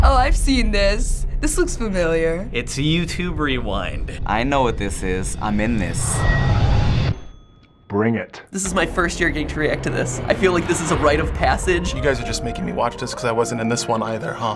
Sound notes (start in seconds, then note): 7.0 ding